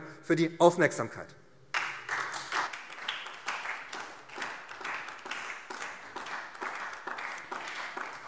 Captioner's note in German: Beifall SPD